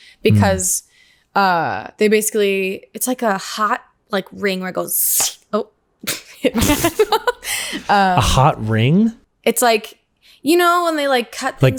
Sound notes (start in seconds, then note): 5.1 mimics hiss; 7.6 laughs